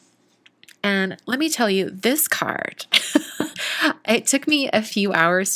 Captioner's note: laughs